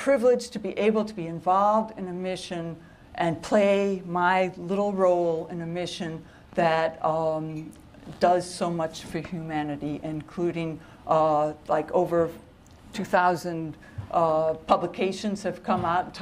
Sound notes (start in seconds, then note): none